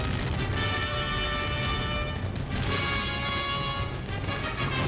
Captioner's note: bombs exploding